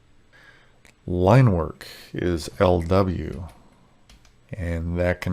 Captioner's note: keyboard clacking